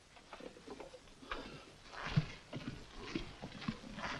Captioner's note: footsteps patter